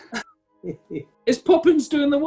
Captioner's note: chuckling